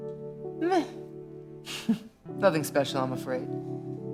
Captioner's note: laughs